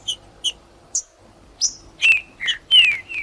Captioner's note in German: trinca ferro cantando